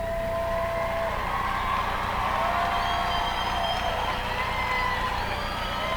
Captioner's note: applause